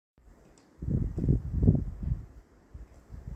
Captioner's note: light breeze